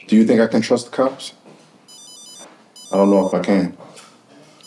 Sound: phone ringing

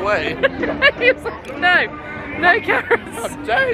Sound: laughing

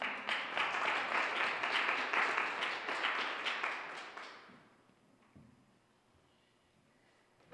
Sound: applause

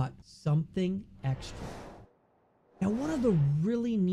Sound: whooshing

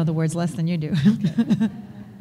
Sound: laughs

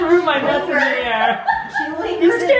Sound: laughs

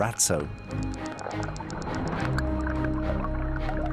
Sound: whales clicking

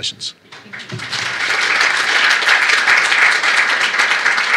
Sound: applause

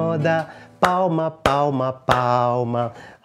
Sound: clapping

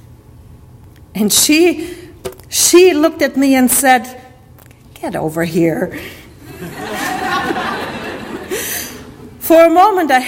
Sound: audience laughter

